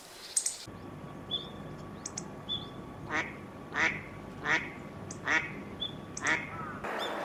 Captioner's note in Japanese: カルガモ又はマガモの鳴き声も聞こえます。